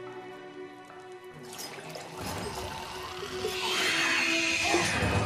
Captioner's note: growling, screeching